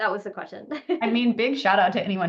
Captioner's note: laughs